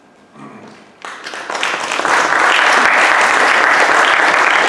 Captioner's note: audience applauds